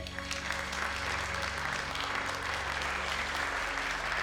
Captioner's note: crowd applauding